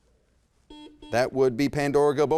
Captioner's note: buzzer beeps